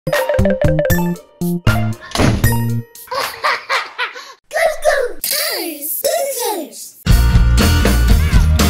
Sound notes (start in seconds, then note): 0.0 upbeat music; 3.0 child laughing